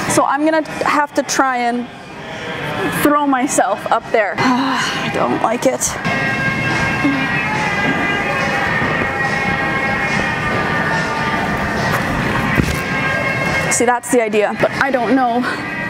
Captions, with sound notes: So I'm gonna have to try and throw myself up there. (exhales) I don't like it. (upbeat music) See that's the idea, but I don't know.